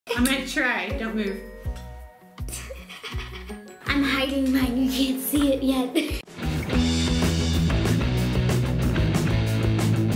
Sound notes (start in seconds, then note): 2.4 giggling; 6.2 upbeat rock music